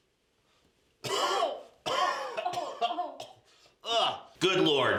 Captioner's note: DOC and NURSE cough and gag